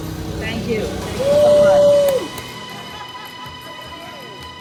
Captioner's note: workers applaud